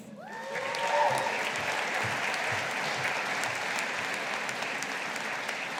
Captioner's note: audience applauding